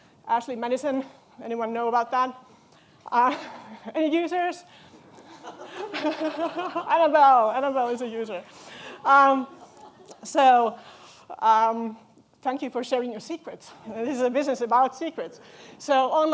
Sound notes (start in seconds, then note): 5.2 chuckles; 5.3 audience chuckling